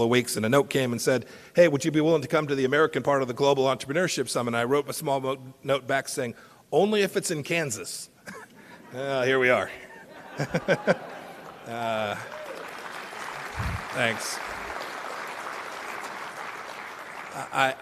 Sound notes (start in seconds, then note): 9.8 laughter and applause